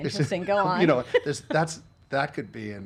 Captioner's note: laughing